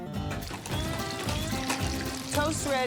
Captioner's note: oil spits